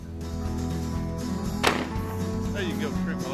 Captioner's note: gun shots